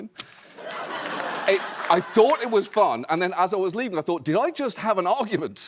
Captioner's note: laughter